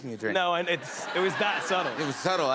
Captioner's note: laughter